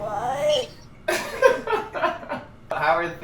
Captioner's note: laughs